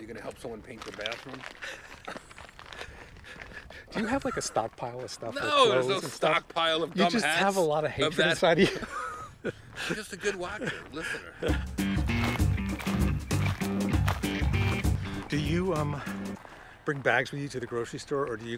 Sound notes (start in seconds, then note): 9.2 laughs; 11.4 upbeat music; 11.4 gravel crunching under foot